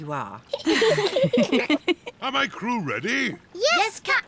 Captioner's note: all giggle